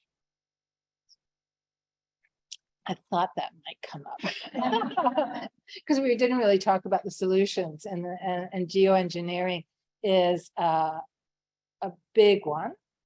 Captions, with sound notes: I thought that might come up. (everyone laughing) 'Cause we didn't really talk about the solutions and geoengineering is a big one and we know